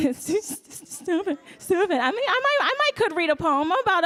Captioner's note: laughs